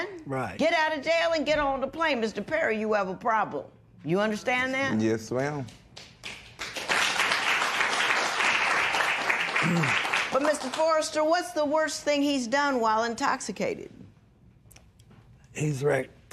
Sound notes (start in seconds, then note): 5.9 applause